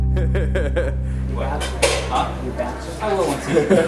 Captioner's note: both laughing; student laughing